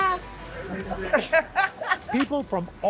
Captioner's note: laughter